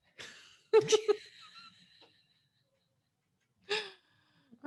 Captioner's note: both laugh